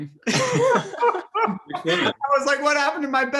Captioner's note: all laugh